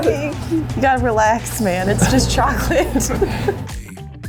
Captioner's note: nervous laughter